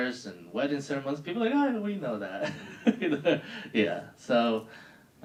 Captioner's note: laughing